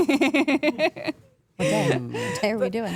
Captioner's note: AJ laughs